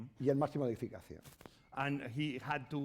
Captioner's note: speaking spanish